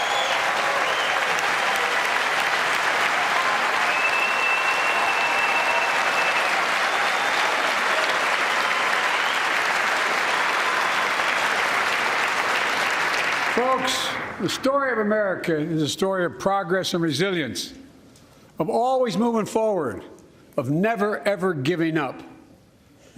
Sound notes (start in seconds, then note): 6.2 cheers and applause